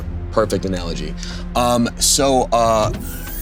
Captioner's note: none